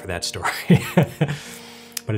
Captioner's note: laughs